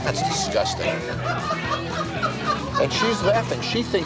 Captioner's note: crowd laughing